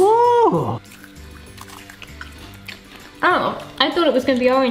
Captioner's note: crunching